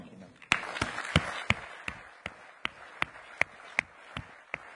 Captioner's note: audience applauding